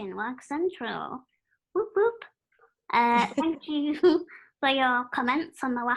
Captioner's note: laughter